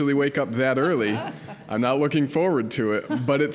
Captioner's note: audience chuckling